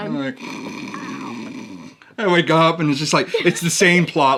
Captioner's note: snores